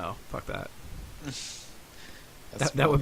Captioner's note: chuckling